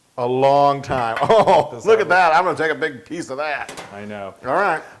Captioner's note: laugh